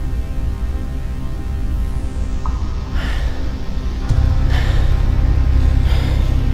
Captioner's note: panting